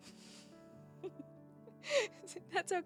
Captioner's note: laughs